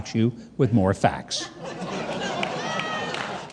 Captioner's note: audience laughing